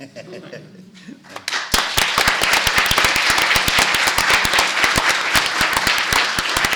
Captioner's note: applause